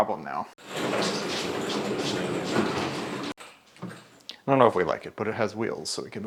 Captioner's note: machine scraping floor